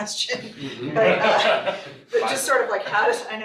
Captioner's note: all laughing